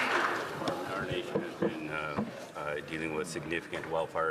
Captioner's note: some Applause